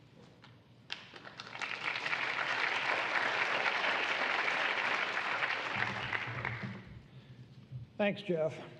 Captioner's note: applause